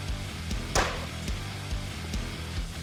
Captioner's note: thudding